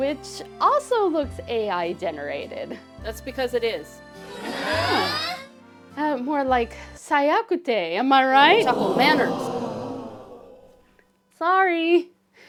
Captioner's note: shocked voices